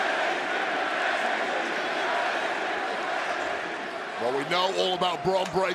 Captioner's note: crowd chants "nxt"